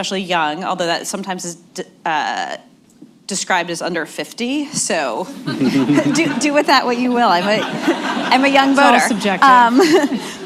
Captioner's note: laughter